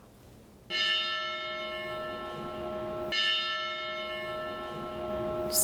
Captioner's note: bell rings